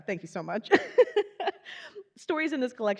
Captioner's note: giggling